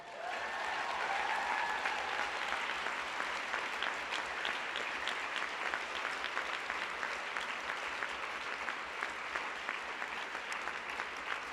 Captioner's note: applause